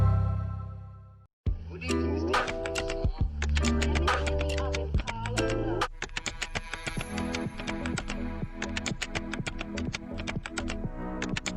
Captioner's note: typing and music